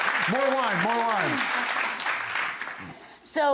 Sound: audience claps

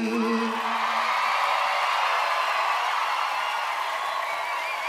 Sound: audience cheering

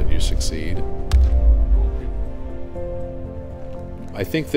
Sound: bat hitting

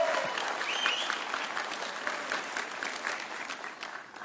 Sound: audience cheering

